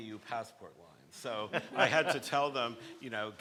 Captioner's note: people laughing